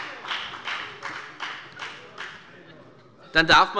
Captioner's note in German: Beifall bei der FDP